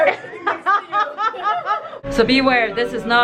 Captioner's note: laughs